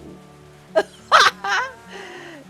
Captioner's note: laughs